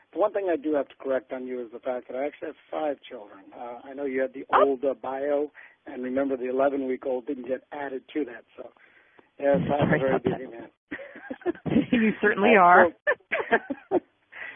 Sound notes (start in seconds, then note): 9.4 chuckles